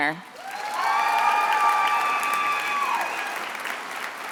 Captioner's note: attendees applauding